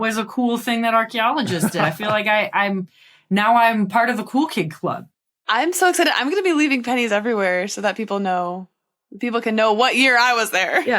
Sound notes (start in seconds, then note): 1.4 chuckles